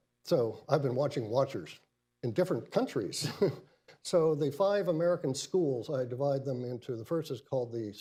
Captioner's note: laughs